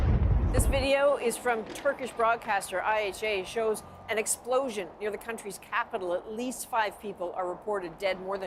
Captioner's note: bombing